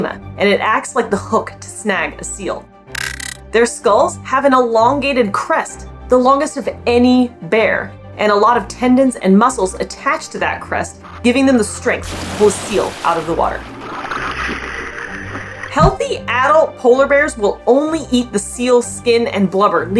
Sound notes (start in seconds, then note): 2.8 background music; 2.9 glitch sound effect; 14.0 background music; 14.0 muffled water bubbling noises